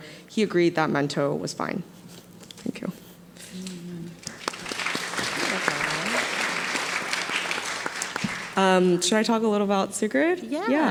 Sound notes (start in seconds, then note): 4.2 audience applauding